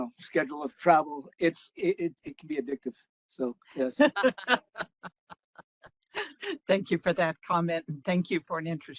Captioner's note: laughing